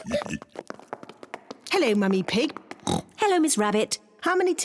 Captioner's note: all giggle; oinks